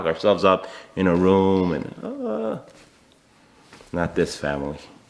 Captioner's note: soft whimpers